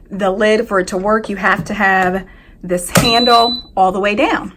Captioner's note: lid beeps